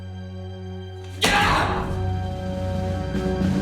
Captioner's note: yells in frustration